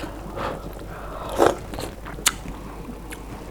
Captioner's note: slurp